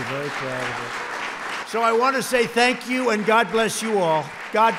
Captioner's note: applause